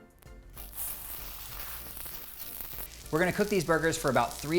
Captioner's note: faint sizzling